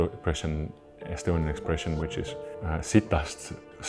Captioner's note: speaking in Estonian